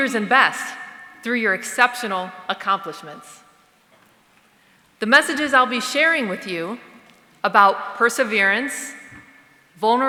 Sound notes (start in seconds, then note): none